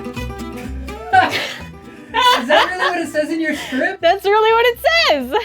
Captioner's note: off-screen, laughing